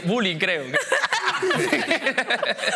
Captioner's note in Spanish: todos ríen